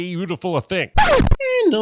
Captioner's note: record scratch